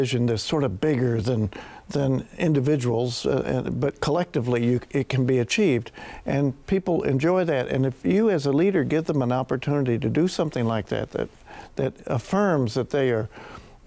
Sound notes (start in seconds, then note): none